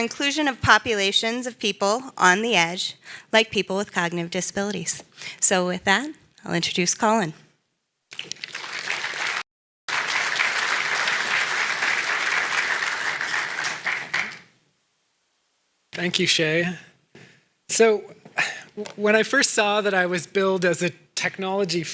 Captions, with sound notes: ENSURE INCLUSION OF POPULATIONS OF PEOPLE ON THE EDGE, LIKE PEOPLE WITH COGNITIVE DISABILITIES. SO WITH THAT, I WILL INTRODUCE COLIN. (APPLAUSE) » THANK YOU, SHEA. SO WHEN I FIRST SAW THAT I WAS BILLED AS A